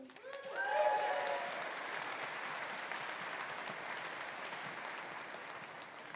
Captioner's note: audience applauding; audience cheering